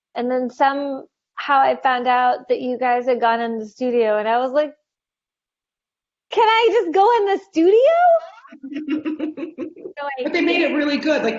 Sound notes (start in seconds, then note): 8.3 laughing